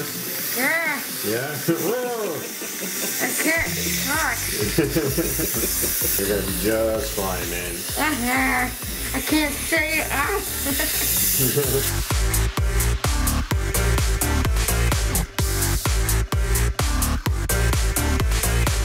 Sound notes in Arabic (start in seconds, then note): 4.5 يضحك; 10.6 يضحك; 12.5 موسيقى تقنية